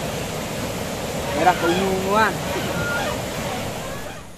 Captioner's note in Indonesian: tertawa